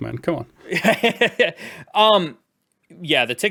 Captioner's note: laughs